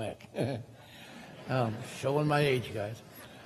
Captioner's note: crowd laughing